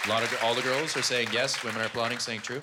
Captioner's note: applause